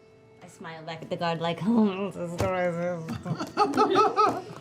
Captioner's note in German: gequältes Lachen